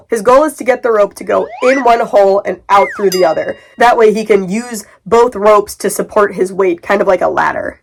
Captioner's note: slide whistle up; slide whistle down